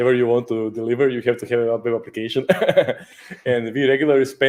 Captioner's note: laughs